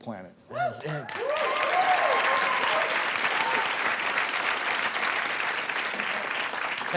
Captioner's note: audience cheering and clapping